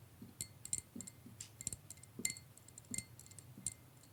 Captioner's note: stirrer clinking